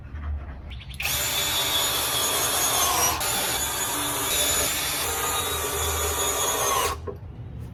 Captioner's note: drill drills some more